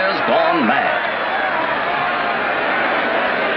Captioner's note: crowd cheering excitedly